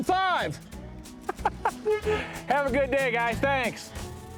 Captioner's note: chuckles